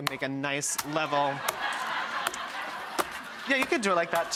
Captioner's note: laughing